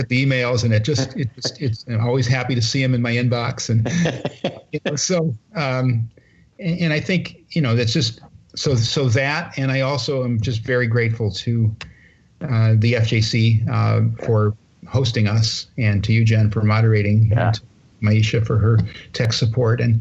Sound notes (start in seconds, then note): 0.9 laughter; 3.7 laughter